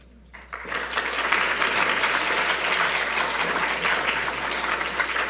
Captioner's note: audience applauding